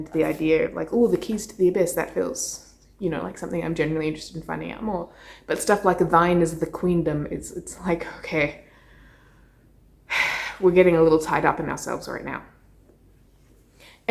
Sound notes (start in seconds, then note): 10.1 sighs